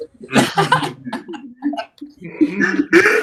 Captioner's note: chuckles